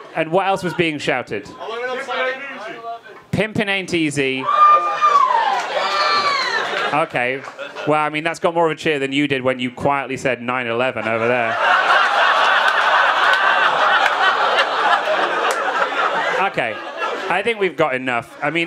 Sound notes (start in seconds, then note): 4.4 audience cheering; 11.0 audience laughing